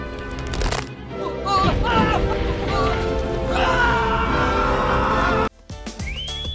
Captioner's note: man screams